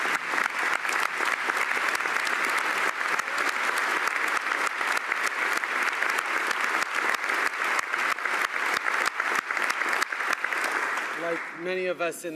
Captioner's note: applause